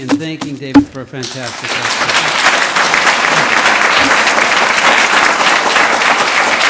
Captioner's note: audience applauds